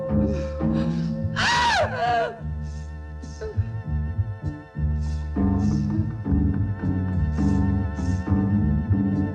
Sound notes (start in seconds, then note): 1.3 Kinojo screaming; 6.7 ominous music